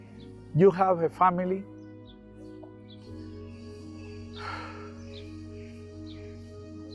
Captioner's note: sighs